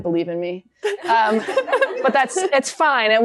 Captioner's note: laughter